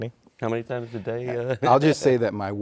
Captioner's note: laughs